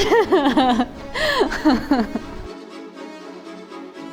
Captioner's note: laughing